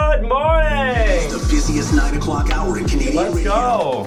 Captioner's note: pre Recorded Radio Voice